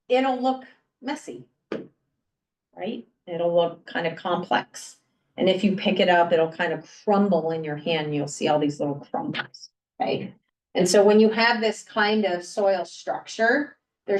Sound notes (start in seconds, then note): none